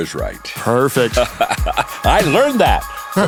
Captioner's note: John laughing